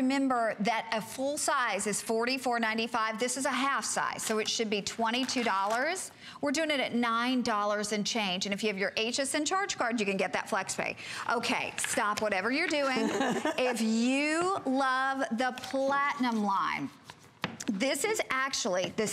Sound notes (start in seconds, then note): 12.9 laughter